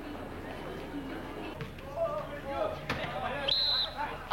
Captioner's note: Sifflet